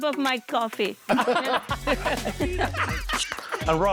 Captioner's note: laughing